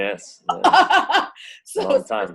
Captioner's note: laughs